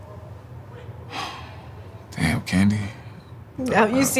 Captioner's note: sighs